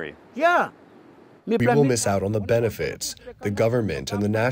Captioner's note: through translator